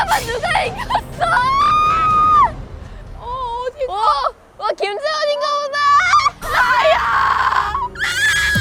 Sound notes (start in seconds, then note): 5.7 screaming